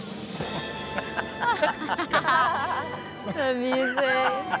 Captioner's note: family laughs